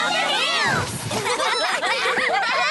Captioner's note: crash; giggling